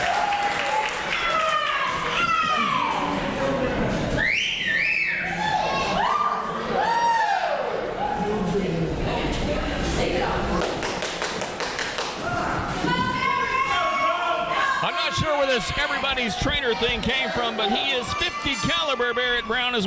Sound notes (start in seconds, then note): 4.2 whistling